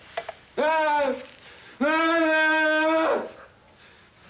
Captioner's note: Casey groaning